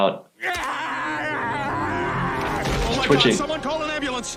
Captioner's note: Peter shouts